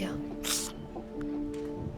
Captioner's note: sneeze